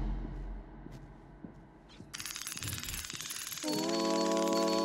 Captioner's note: footsteps clacking